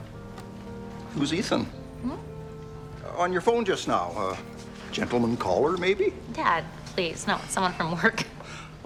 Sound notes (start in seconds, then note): 2.2 Cassie hums